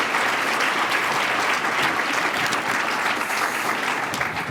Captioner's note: applause